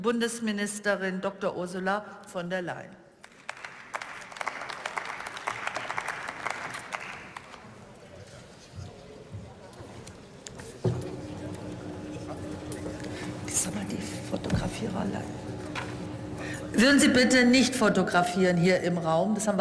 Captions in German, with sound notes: die Bundesministerin Doktor Ursula von der Leyen. (Beifall) Würden Sie bitte nicht fotografieren hier im Raum?